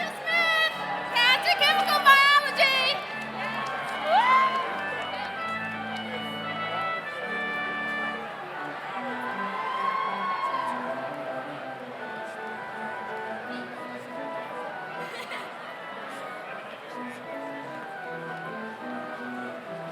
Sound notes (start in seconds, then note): 4.5 slow organ music continues; 9.9 audience cheers; 14.3 slow organ music continues